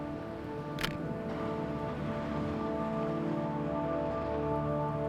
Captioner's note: camera clicks